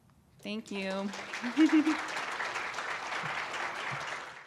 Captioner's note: applause